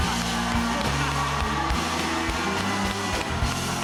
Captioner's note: cheers and applause